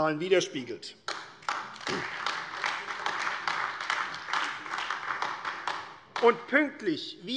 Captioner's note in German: Beifall AfD